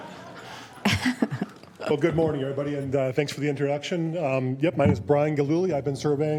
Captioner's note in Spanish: risas